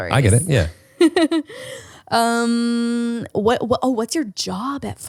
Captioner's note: laughs